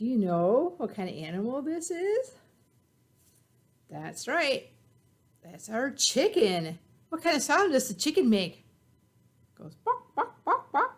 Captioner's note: clucking